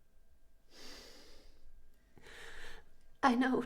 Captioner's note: Marianne's breathing heavily